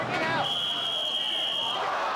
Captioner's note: whistling; spectators exclaiming